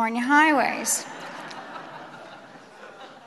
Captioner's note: laughter